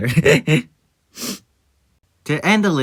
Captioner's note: sniffle